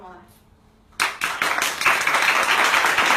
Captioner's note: applause